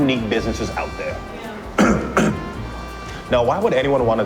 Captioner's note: clears throat